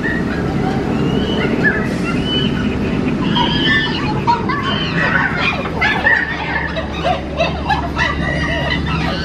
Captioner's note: monkeys yelling